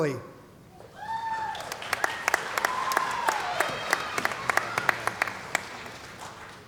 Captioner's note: cheering & Applause